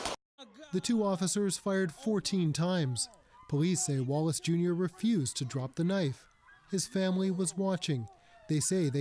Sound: gunfire

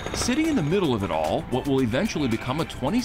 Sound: crane sputtering

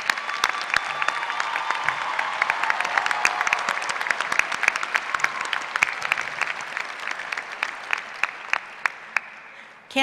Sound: applause

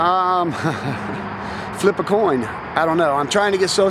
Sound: laughs

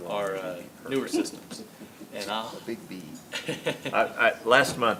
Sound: laughs

